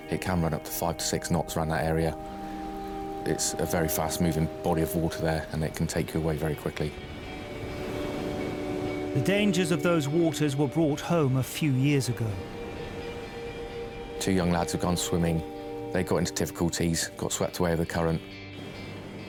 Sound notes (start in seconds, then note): 7.4 gentle music; 7.4 waves roaring